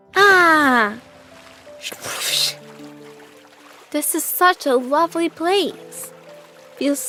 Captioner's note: splash